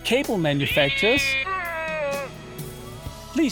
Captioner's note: screams in pain from anal rape